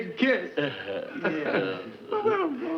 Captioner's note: Joan and Brad chuckle